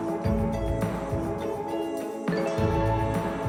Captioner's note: applause